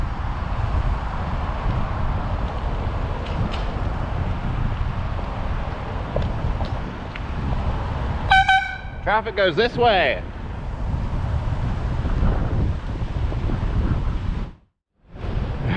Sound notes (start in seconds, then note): 8.3 airhorn